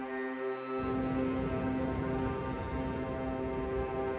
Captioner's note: wind blowing